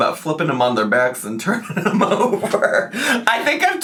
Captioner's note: laughs